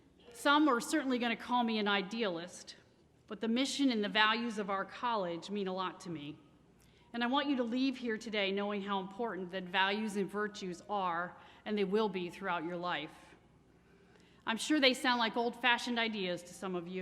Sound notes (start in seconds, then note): none